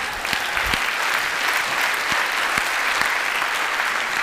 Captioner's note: applause